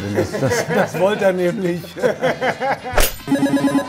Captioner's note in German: Lachen